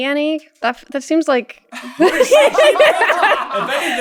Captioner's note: laughter